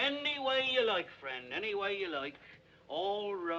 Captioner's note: none